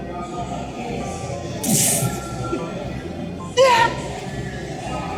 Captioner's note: sound effects